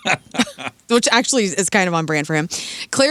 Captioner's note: laughing